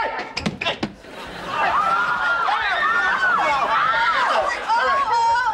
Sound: clamoring

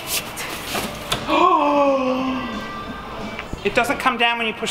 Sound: umbrella rustles; gasps

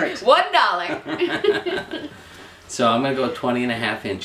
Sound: laughing

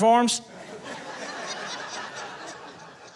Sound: audience laughing

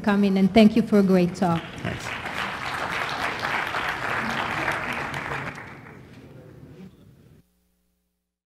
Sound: applause

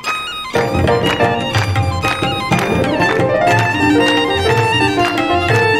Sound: audience rhythmically clapping

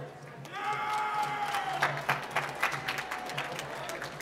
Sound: applause

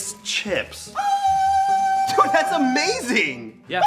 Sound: Chips ghost shrieks

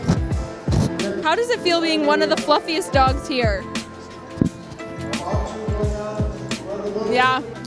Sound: dog touching mic

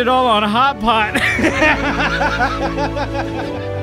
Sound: laughing

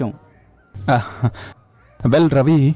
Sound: chuckles

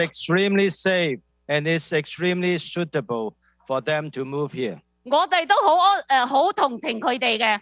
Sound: speaking non-english

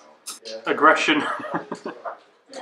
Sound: laughs

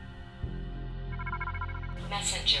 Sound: screen whirring

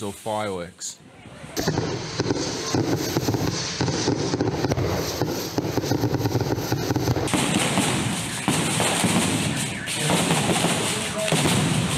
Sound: Bombas exploding

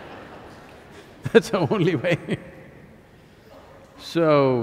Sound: laughs; laughter

